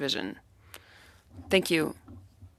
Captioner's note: speaking French